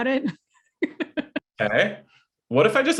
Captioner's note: laughing